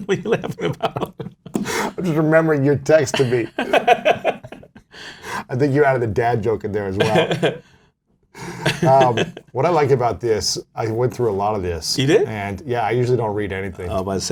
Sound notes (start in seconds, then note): 0.0 laughs; 3.1 laughter; 6.9 laughter